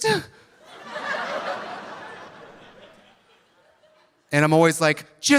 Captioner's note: audience laughing